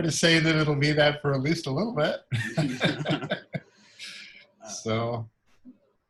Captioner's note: laughs